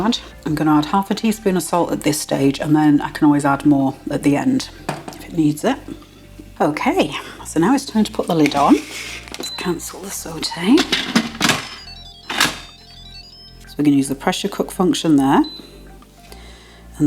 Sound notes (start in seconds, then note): 8.7 thunk click; 16.2 beep beep beep